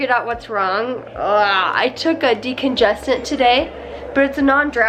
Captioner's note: groans